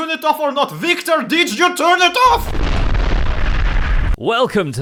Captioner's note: explosion